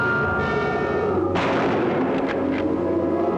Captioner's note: gunshots